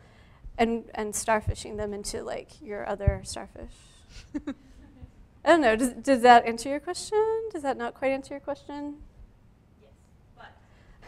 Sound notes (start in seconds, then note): 4.2 chuckles